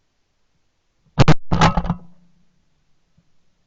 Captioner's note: gunshot